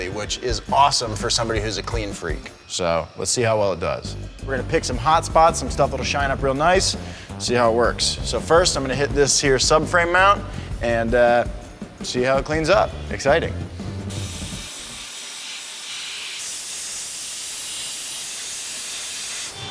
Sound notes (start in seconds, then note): 13.6 machine hissing